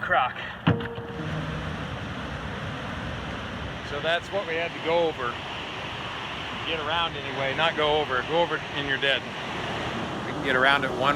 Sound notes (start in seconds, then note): 2.4 water rushing